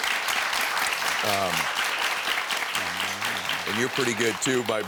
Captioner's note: audience clapping